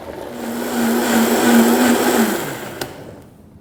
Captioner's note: blender sound